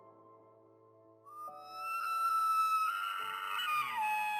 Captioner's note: elk bugles